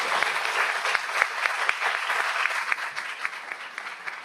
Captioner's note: audience applauds